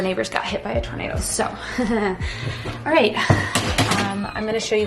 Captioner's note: laughing